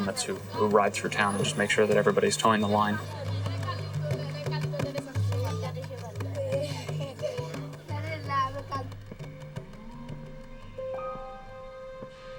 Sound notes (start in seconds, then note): 3.7 workers speaking in foreign language; 9.6 gentle music